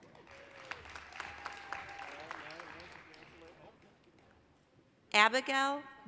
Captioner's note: applause, cheering